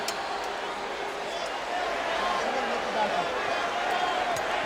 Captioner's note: crowd chattering